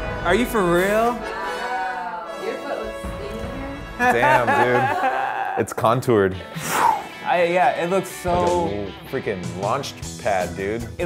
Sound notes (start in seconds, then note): 0.0 people cheering; 0.0 triumphant music; 4.0 laughs; 6.4 imitates whooshing wind